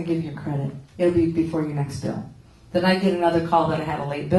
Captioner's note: none